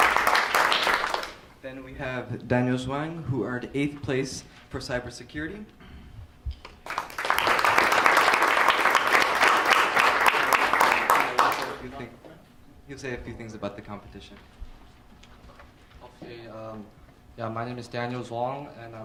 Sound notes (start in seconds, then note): 6.8 applause; 10.5 speaking away from mic